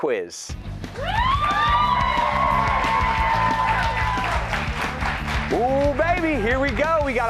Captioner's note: cheers and applause